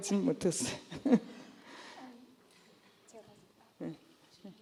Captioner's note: laughs